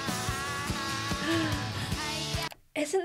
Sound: gasps

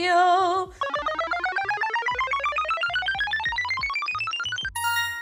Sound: wheel spinning

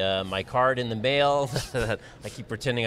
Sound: laughing

